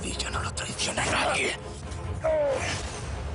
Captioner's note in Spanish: Quejido